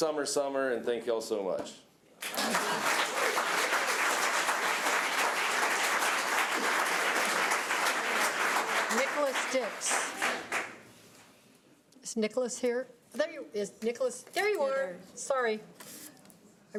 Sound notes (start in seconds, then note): 2.2 audience applause